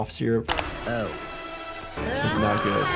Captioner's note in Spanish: grita